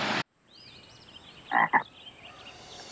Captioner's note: croak